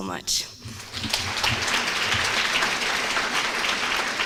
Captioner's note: applause